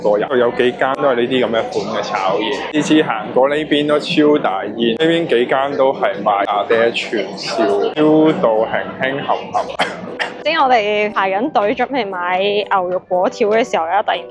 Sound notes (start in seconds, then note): 9.2 cough